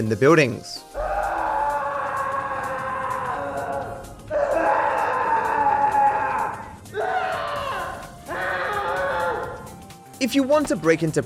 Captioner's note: inmate screaming